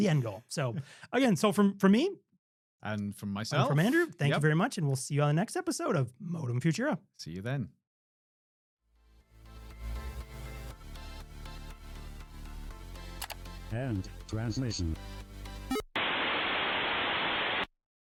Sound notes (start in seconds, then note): 15.3 beep; 15.9 static